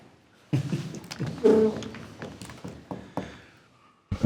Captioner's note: chuckles